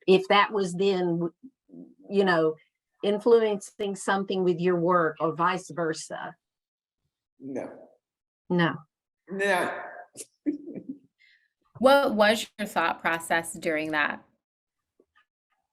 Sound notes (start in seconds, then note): 9.4 laughs